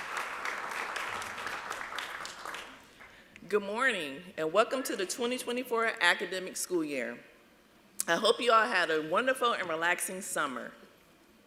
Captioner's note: applause